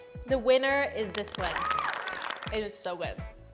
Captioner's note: claps